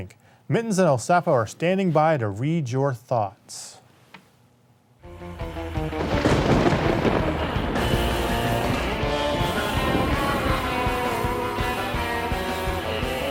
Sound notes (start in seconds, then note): 5.9 thunder and lighting cracking